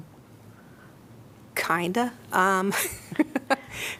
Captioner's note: laughter